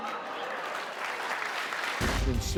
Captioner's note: applause